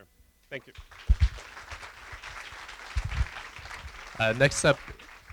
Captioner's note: applause